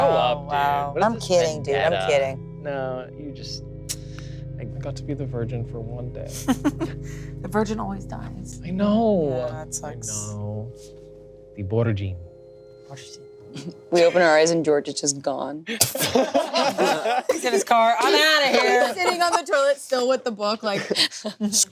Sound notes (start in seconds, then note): 6.4 laughs; 15.7 everyone laughing